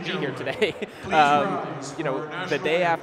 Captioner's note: chuckling